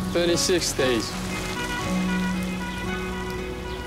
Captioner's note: bus horn honking